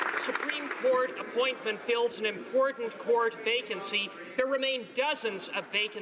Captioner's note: applause